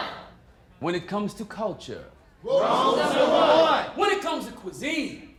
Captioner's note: crowd; crowd